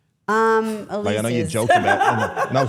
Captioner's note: laughs